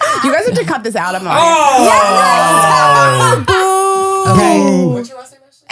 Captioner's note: laughing and booing